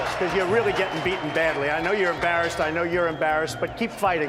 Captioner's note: audience cheering